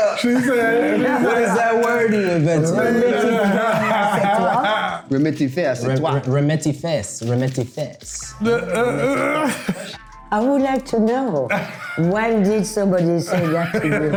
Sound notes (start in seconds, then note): 2.8 speaking in French; 8.3 laughing